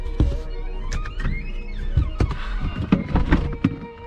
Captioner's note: switch clicks